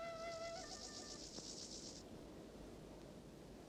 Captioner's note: cricket's chirping